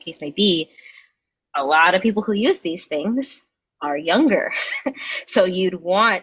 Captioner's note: chuckles